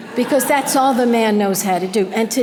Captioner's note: audience laughter